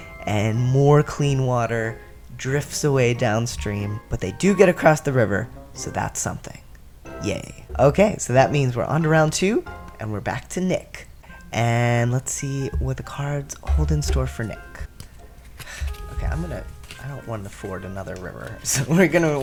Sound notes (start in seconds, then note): 15.5 sigh